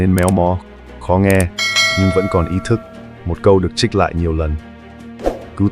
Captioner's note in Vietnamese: chuông